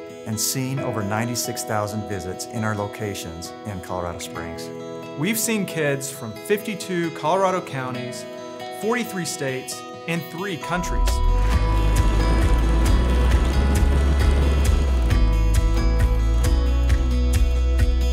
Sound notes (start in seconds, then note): 11.6 helicopter whirring; 11.9 upbeat music